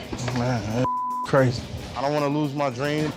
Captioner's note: beep